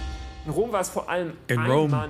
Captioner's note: speaking in foreign language